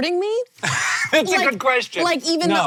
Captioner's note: laughing